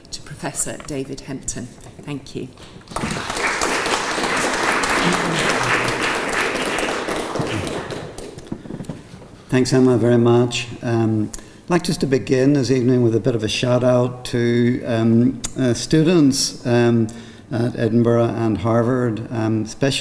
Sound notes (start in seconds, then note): 2.6 applause